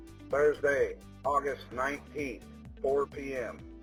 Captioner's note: male Voice